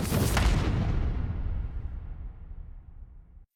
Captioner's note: thoom